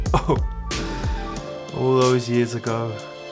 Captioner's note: laughs